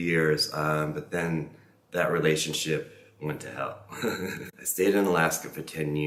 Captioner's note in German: lacht